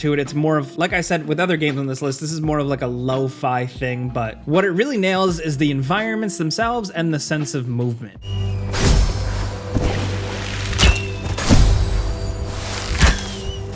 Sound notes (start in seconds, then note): 8.4 power clangs; 10.7 arrow whistles